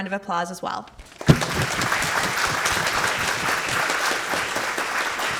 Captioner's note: audience clapping